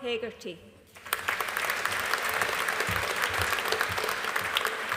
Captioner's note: audience applauding